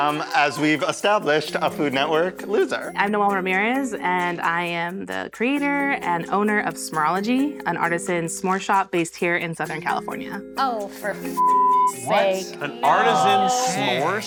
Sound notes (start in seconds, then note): 11.4 beeps